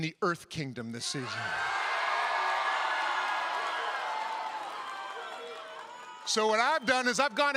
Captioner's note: cheering